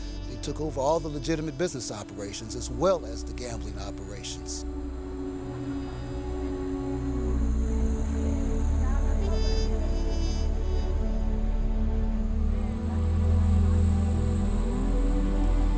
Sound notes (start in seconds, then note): 8.4 hubbub